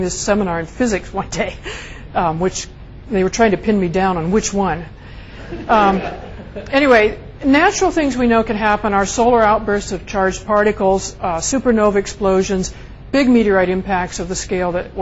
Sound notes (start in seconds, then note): 5.4 students laugh